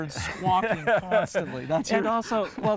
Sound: laughs

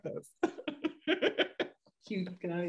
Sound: laughter

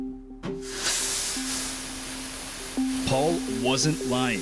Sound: fog hisses

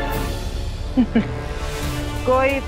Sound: chuckles

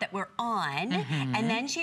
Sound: electronic voice

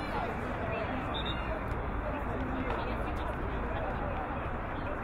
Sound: whistle blowing

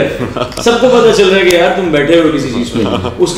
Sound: laugh

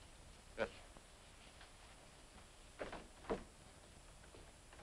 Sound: rain pattering

